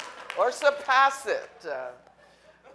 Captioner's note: audience applauding